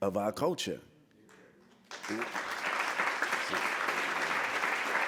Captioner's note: applause